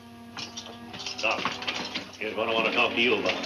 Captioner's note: foot steps